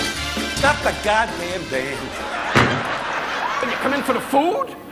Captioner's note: audience laughing